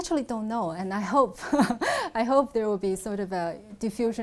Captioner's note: laughs